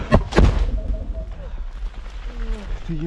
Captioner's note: russian grenade explodes nearby